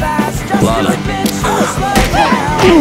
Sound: gasps; grunts

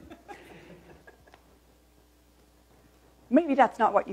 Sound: laughter

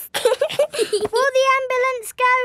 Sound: both giggling

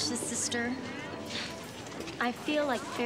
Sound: Brenda scoffs

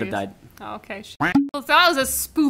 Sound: duck quacking

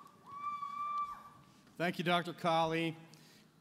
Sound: cheering and Applause

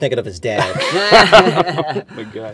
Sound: laughter

